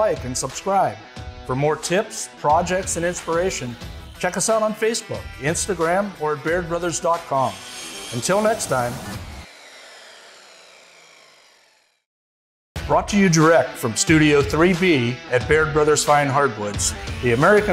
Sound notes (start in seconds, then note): 9.1 saw whirring